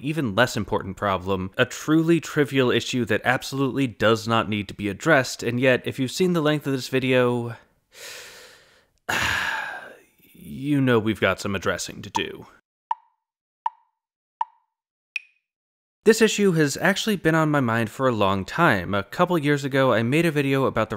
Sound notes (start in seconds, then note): 9.0 sigh; 12.1 tick, tick, tick, tick, tock